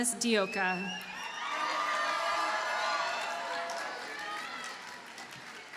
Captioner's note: audience cheers and applauds